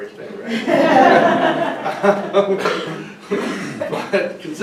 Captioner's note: audience laughing